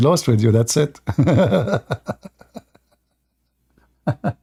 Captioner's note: Ketawa